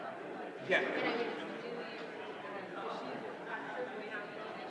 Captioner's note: indistinguishable chatter